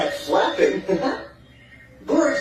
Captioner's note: laughs